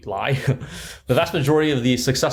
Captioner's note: chuckle